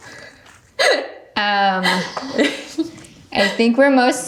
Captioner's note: laughing